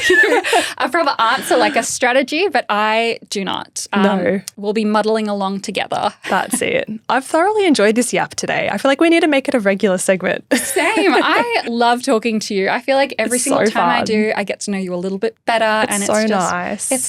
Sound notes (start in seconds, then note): 6.2 laughing; 10.5 laughing